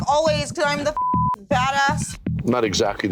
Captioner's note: beep